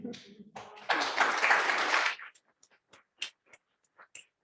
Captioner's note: audience applauding